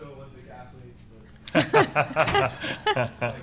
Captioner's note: laughter